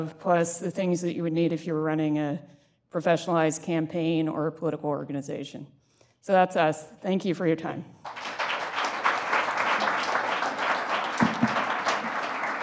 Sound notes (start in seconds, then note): 8.0 applause